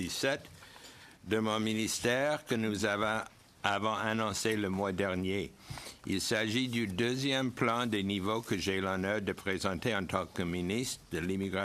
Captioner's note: speaking French